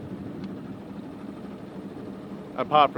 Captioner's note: engine rumbles